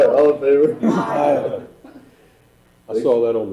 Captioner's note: laughing